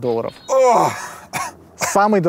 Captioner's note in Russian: кашляет